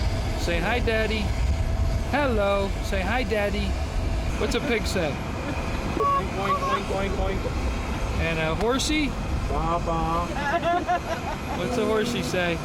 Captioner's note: laughter in van from adults